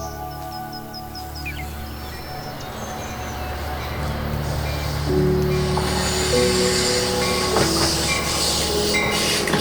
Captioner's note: gentle music continues; birds chirping; trains whirring